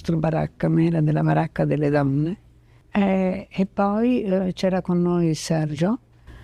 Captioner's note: speaking in foreign language